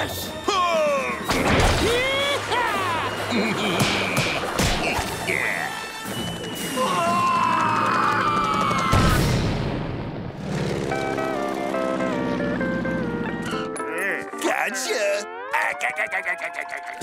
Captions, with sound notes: Pull! Yee-haw! [laughing] [screaming] Gotcha. [laughing]